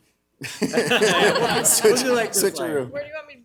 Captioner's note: audience laughs